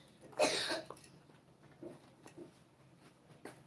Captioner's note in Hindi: गला साफ़ करने की आवाज़